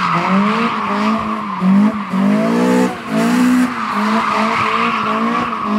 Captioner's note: car sounds